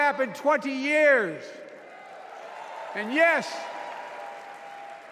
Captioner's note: cheers and applause